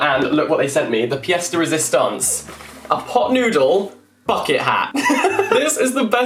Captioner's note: laughs